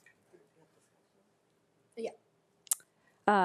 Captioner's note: speaking faintly